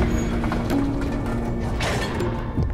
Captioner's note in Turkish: Kapı kapanma sesi; Müzik - Gerilim